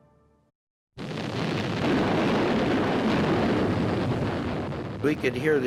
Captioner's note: artillery firing